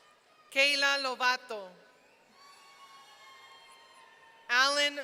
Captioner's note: audience cheering